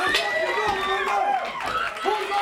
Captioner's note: crowd cheering; crowd chatter